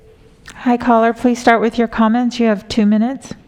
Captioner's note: phone ringing